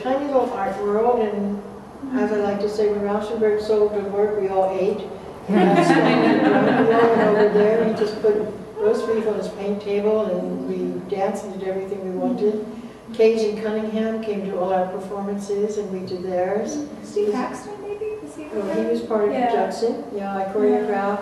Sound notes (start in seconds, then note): 1.5 Arabic; 3.3 Vietnamese; 8.3 Arabic; 10.0 Vietnamese; 18.3 Arabic; 20.0 Vietnamese